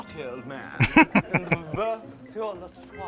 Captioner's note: laughing